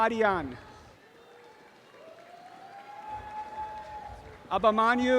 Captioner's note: audience applause